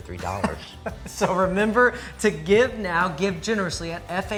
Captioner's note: laughs